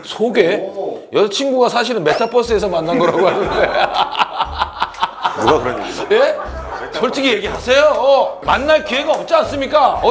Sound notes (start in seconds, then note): 2.8 bwahahaha